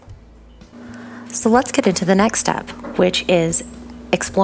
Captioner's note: noise changes, white noise